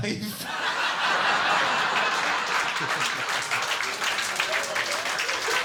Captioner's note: audience laughing and clapping